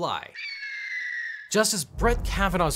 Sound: eagle squawking

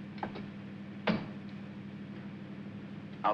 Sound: glove box closes

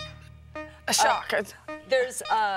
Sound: stammers

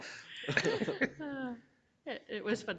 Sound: all laughing

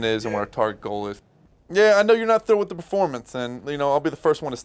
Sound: on phone

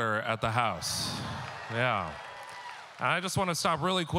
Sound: audience cheering

